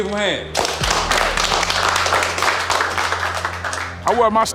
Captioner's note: clapping